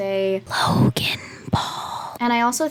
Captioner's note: whispered